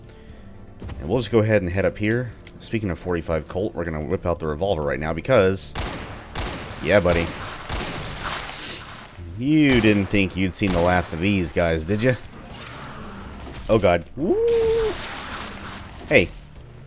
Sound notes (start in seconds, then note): 5.7 Colt firing, Gasbags exploding; 11.6 Gasbag kamikaze screech